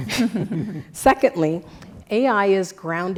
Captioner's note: laugh